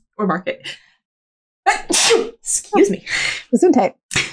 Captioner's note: sneezes